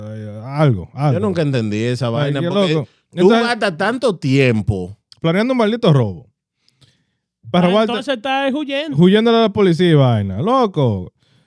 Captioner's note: speaking In Foreign Language